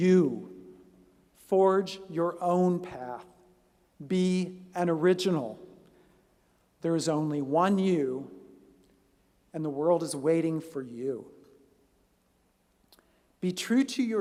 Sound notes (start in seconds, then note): none